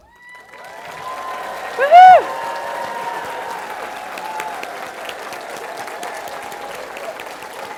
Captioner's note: cheering & Applause